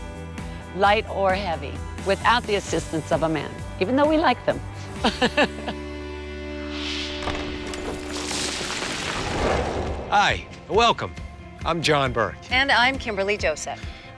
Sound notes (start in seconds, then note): 5.8 laughs; 6.6 wind whooshes; 6.9 rocks clatter